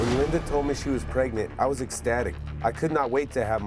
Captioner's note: none